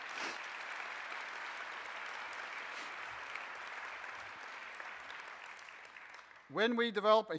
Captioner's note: audience applauses